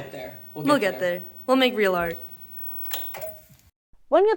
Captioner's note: switch clicking